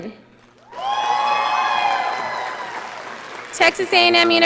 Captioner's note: audience applauding